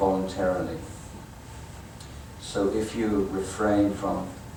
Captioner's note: none